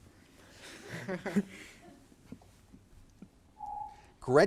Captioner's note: laughing; timer beeps